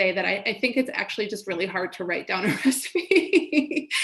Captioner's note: laughs